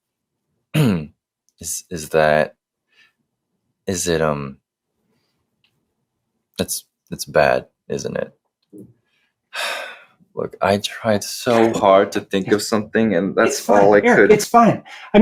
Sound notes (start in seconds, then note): 0.7 clears throat; 9.5 sighs